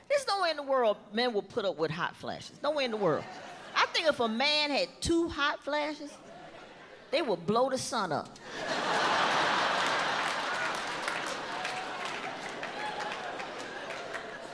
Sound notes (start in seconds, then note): 8.4 audience laughs